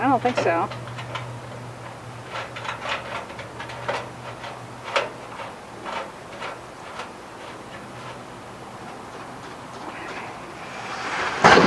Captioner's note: metal scraping